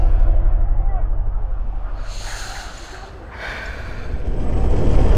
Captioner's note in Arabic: تنهّد